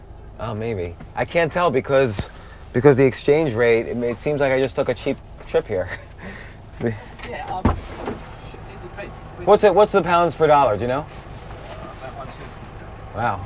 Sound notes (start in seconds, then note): 6.8 laughs; 7.4 taxi driver mumbles